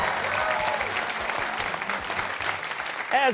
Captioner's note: cheers and applause